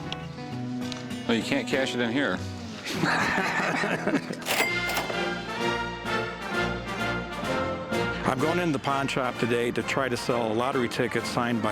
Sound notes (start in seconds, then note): 2.8 laughter